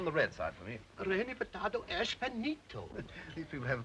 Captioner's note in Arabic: رودولف يتحدث لغة أجنبية